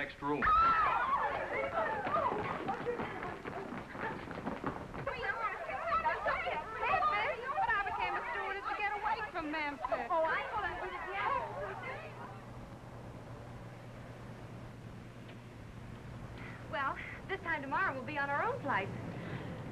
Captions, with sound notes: [squealing] [indistinct chattering] Well, this time tomorrow, we'll be on our own flights.